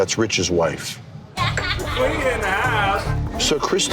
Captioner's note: crowd chatter